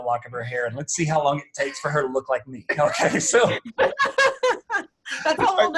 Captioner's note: laughter